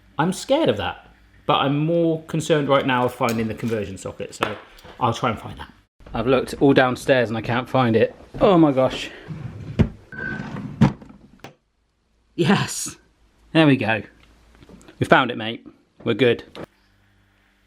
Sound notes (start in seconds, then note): 10.2 drawers opening